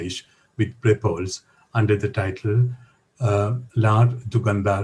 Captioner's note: non-english